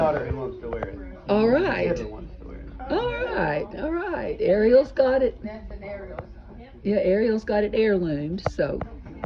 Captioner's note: background chatter, get it aired out